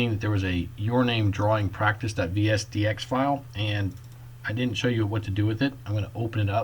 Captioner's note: clicking